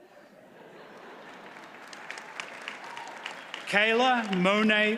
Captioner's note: audience applauds